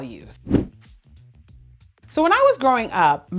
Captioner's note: air whooshing